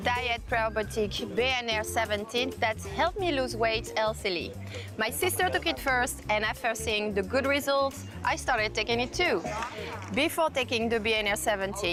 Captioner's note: voiceover